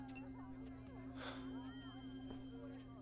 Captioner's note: Sighs